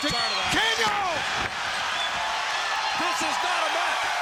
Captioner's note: exclaims